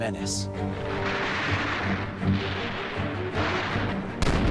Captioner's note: gunfire